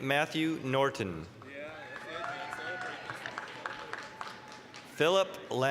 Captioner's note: applause, cheering